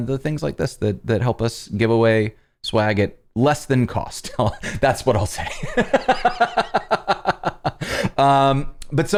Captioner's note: laughter